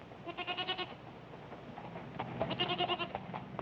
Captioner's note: goats bleating